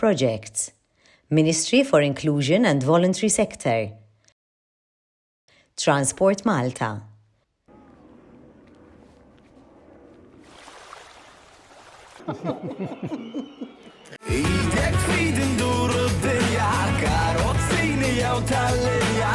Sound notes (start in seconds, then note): 10.7 waves lapping; 12.2 laughter; 14.1 theme song